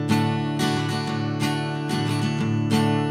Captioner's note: none